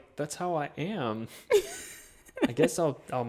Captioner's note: chuckles